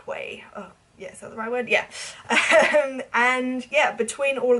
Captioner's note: laughing